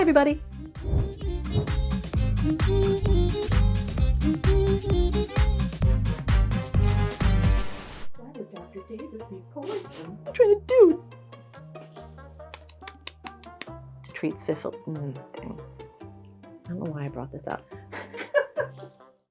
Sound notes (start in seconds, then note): 9.6 sniffles; 12.5 clicking tongue